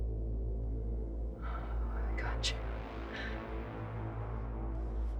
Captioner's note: sighs